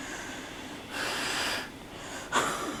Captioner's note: heavy breathing